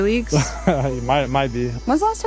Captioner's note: laughs